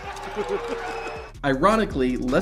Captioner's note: crowd booing